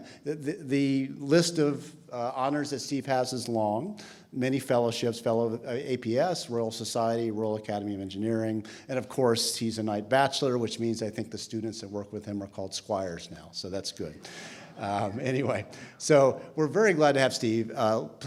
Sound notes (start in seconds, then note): 14.8 audience chuckles